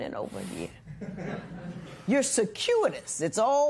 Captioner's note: light laughter